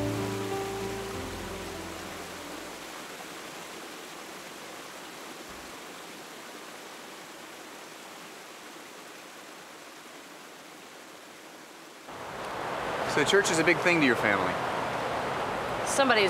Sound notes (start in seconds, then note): 0.0 piano music; 0.1 waterfall sounds